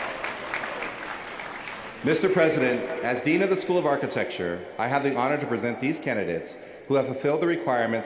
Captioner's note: cheers & applause